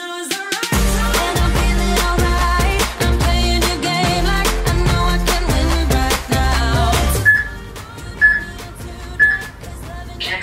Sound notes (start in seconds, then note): 7.2 peep; 9.2 peep